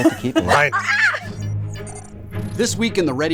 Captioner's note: laughing